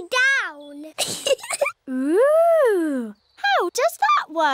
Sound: giggles

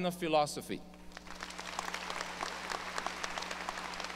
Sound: audience applause

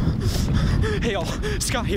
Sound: footsteps approaching; heavy breathing

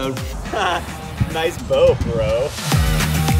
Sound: laughs

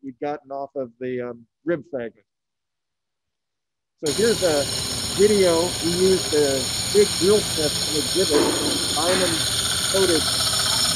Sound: drilling sound

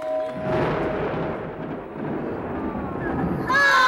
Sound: thunder crashing

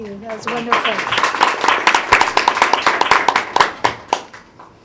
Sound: crowed applauds

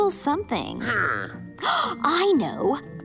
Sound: gasps

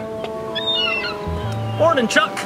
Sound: seagull cries

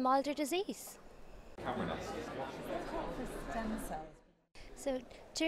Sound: crowd talking

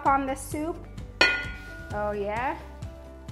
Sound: clangs

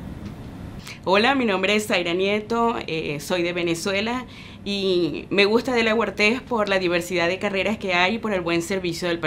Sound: in Spanish

